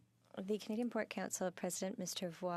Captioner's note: speaking in French